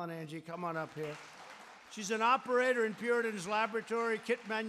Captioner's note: applause